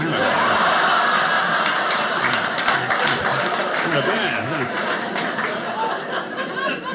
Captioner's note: audience clapping